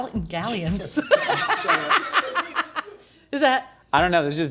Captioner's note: laughing